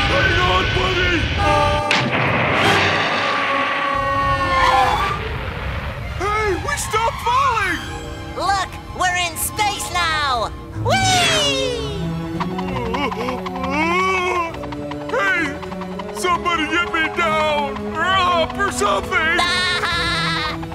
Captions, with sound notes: Hang on buddy! [screaming] -Hey, we stopped falling! -Look, we're in space now! Wee! [moaning] Hey, somebody get me down, or up, or something! [laughing]